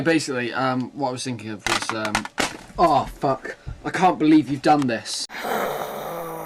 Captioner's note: aggressive exhale